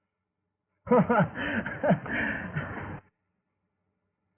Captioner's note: laughs